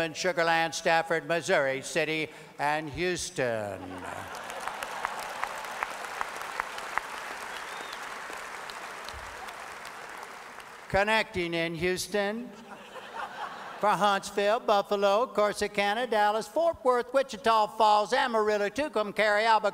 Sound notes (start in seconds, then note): 3.9 audience applause